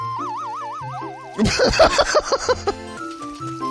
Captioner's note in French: rire